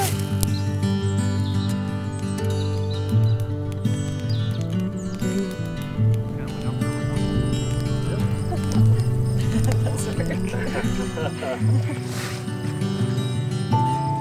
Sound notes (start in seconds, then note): 0.2 sizzle and crackle of fire; 6.2 quiet conversation and laughter